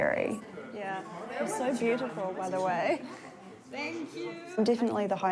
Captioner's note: chuckles